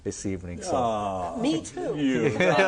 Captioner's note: sighs; everyone laughing